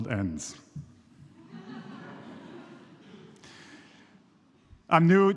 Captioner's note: people laughing